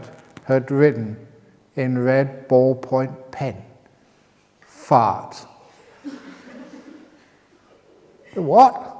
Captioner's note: laughs